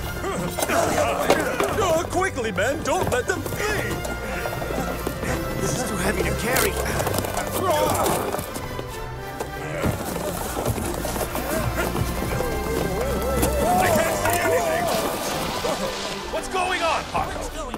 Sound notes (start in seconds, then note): 7.0 guards groan